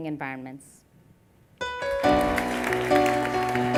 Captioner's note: applause